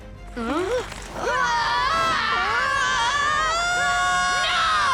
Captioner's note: screaming